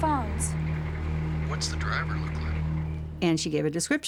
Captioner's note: on phone